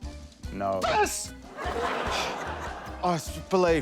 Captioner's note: sighs